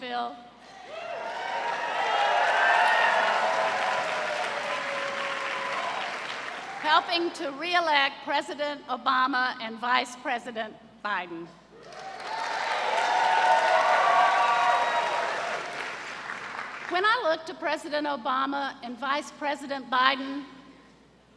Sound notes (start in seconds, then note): 0.8 cheers and applause; 11.8 cheers and applause